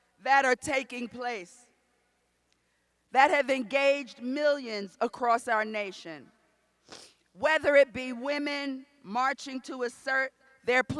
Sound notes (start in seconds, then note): none